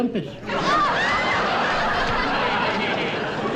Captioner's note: audience Laughing